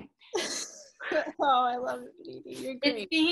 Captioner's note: laughs